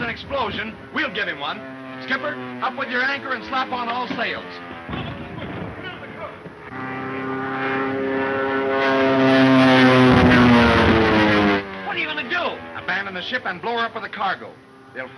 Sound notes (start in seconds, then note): 7.2 airplane engine roaring; 9.9 bomb exploding